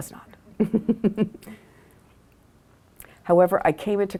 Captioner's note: laughs